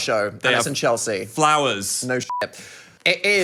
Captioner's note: beep